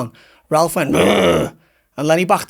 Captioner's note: makes growling sound